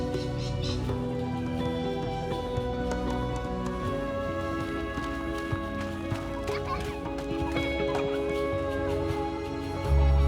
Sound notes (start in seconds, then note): 6.8 children laughing